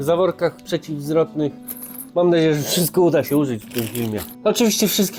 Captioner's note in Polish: parsknięcie